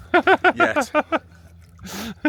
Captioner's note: laughing